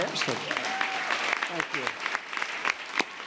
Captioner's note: applause